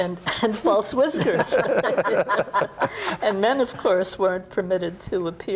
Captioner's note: chuckles